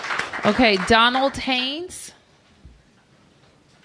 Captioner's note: applause